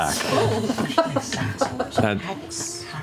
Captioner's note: laughter